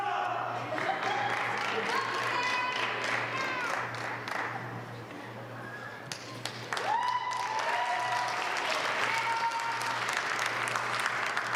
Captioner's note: applause